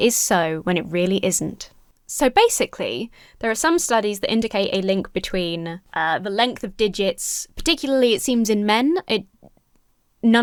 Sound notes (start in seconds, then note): none